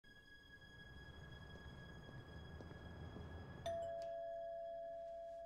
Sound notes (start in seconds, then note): 3.6 doorbell rings